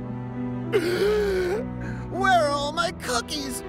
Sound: gasps

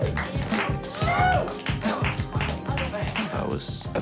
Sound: clapping and cheering; upbeat music

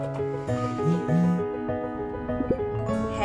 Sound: phone buzzes with doorbell camera notification

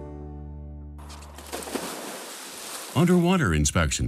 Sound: splash

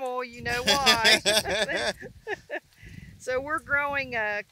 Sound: laugh

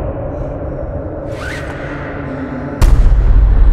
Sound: straps sliding

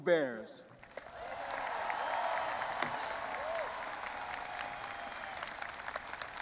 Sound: audience applauding and cheering

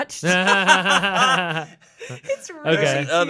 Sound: all laughing

